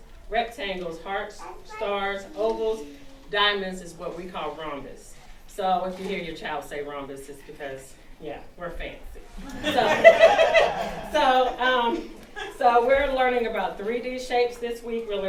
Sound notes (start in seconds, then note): 9.3 all laughing